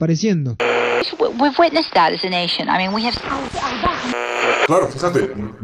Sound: radio tuning

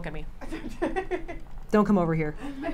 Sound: laughs

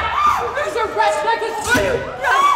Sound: screams

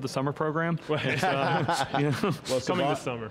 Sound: all laugh

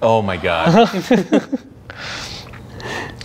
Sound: laughing

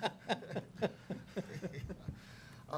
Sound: laughing

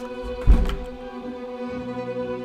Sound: door closing

